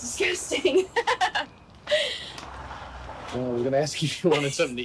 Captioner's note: both laughing